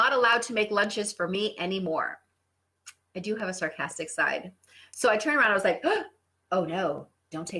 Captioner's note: gasp